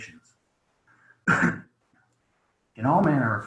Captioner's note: clears throat